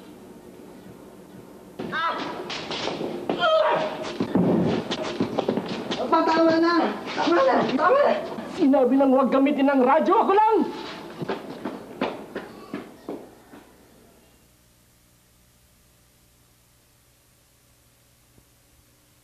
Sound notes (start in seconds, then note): 3.3 painful cry; 4.2 thud